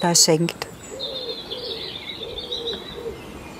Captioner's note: birdsong, screech owl